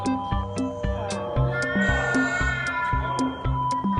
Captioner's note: siren sounds